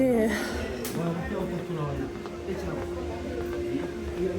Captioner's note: background chatter